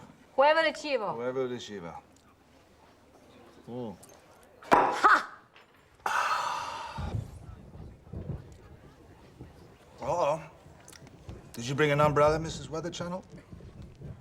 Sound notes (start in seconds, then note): 6.0 exhales; 7.0 thunder rumbling